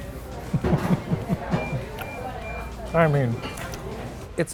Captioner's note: laughing